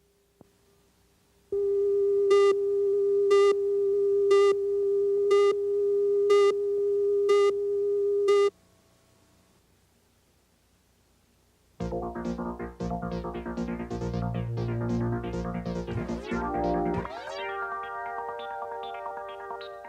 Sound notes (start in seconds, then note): 1.9 beeps